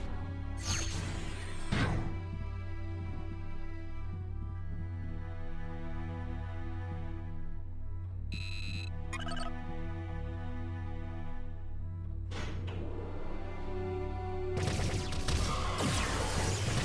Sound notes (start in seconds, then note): 8.3 beeps; 10.4 laser blasts